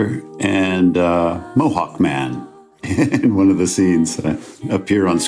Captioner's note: chuckles